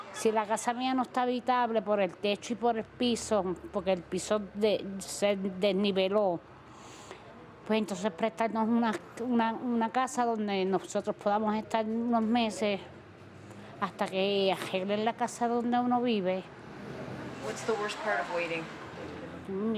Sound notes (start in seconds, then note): 2.9 speaking spanish